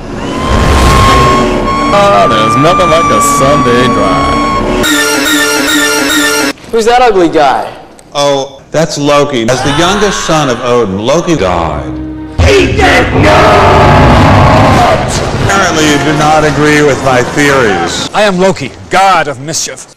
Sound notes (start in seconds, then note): 0.2 screaming; 3.9 still screaming; 9.5 scream; 12.3 echo-y